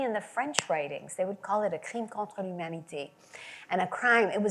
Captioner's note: French language